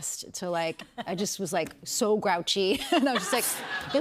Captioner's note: laughter